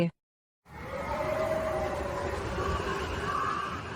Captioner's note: wind Howling